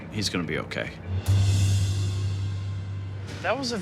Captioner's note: distant siren wailing